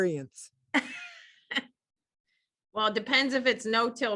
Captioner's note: laughs